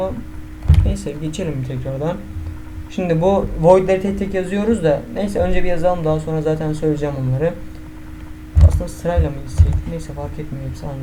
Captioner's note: humming to myself